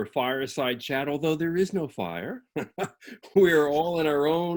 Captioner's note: laughs